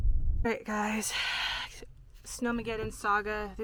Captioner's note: sighs